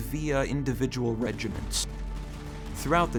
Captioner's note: multiple guns firing